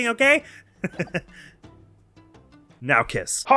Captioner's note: giggles